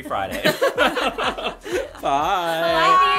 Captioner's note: laughter